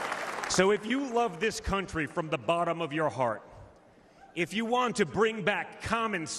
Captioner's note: applause